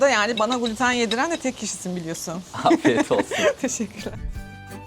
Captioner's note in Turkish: kahkaha